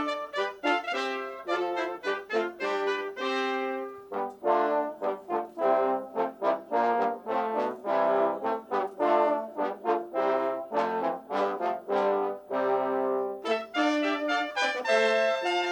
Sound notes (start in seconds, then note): none